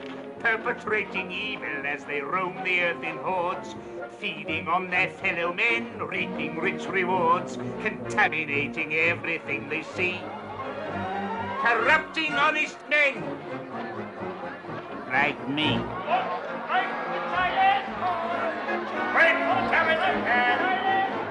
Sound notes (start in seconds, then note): 16.1 shouting and murmuring